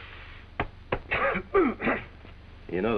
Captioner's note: exhaling